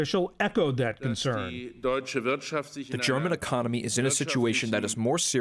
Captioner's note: through translator